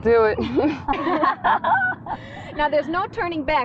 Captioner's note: all laughing